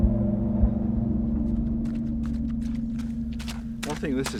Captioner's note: squelchy wet sound